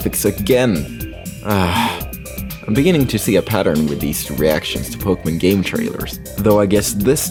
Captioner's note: sigh